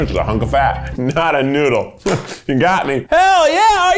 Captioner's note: laughs